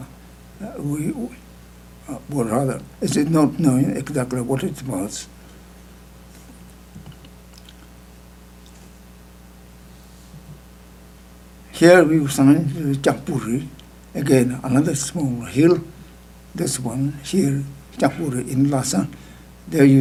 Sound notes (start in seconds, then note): 12.5 speaking tibetan